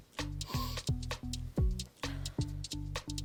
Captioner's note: sniffs